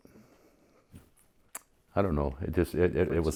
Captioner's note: clicks tongue